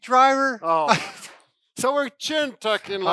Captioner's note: laughs